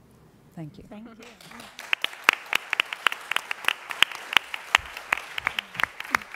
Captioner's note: applause